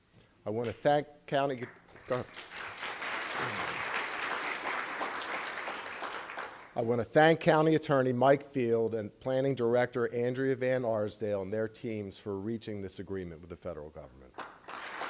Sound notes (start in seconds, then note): 1.6 applause; 14.3 applause